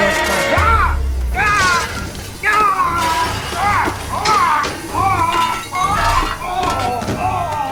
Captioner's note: kitchenware clanking; cook screaming; cook thuds